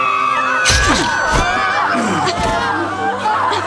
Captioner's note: man grunts; people groaning and sobbing